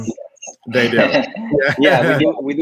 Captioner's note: laughs